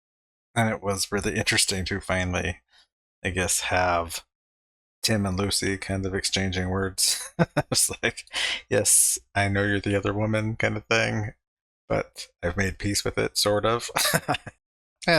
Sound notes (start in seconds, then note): 7.0 chuckling; 13.8 laughing